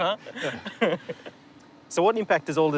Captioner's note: laughter